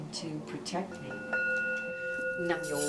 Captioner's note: chants in foreign language; bell rings; bracelets click